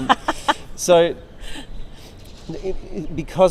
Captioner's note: laughs